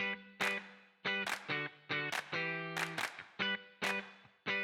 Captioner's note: upbeat clapping